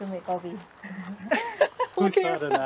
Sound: laughs

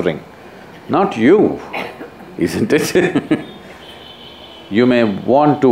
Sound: laughs

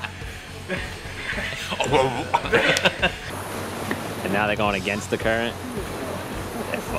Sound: laughs

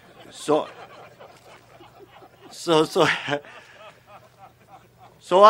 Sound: laughter

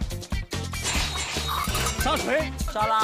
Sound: knocking

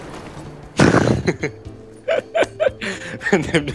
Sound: laughing in German

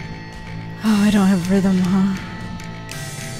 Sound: sighs

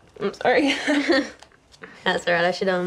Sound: both laughing

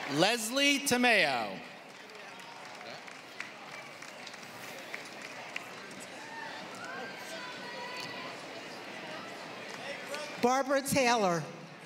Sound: applause; applause

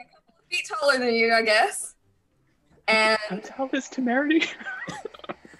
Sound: laughs

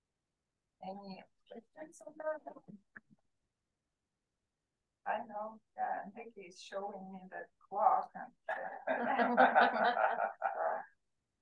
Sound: laughter

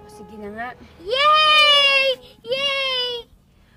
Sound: kids cheering

